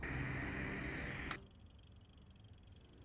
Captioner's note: TV static